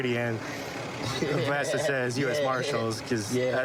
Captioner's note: laughing